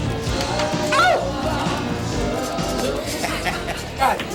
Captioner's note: man yells; man laughs